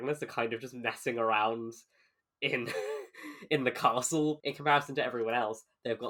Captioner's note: laughs